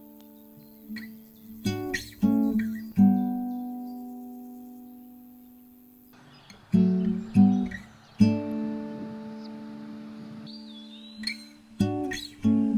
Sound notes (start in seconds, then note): 6.6 birds chirping; 6.6 wind